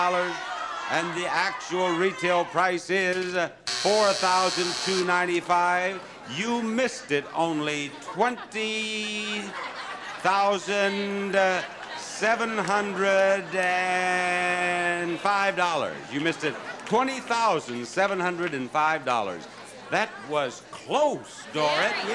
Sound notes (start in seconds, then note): 3.6 buzzer sounds